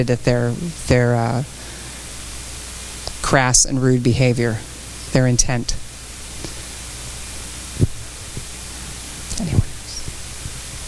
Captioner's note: quietly